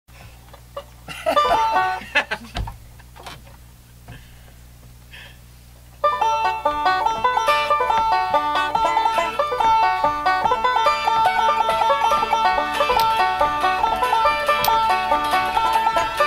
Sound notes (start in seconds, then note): 1.0 banjo player laughs; 6.1 upbeat folk music